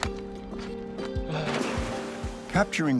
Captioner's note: gentle music; water splashing